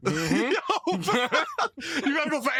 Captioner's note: laughter